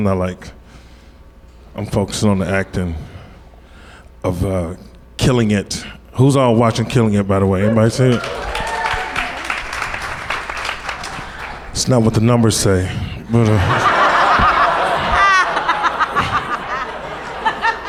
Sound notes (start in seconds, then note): 9.4 audience cheers and applause; 14.9 audience laughs